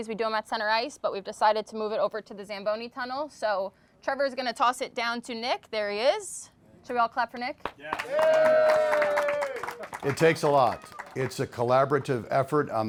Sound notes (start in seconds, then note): 7.6 all clapping